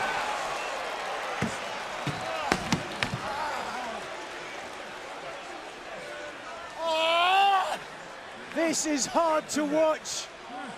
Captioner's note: crowd chatter